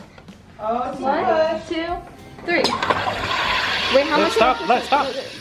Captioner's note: loud whooshing